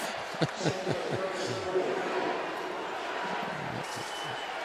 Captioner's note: pa announcement